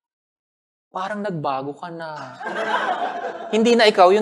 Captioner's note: laughter